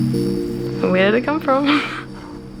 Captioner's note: laughing